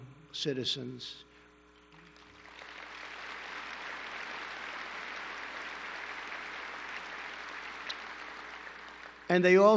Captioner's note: applause